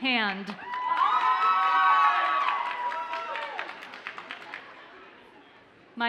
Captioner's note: audience cheers and applauds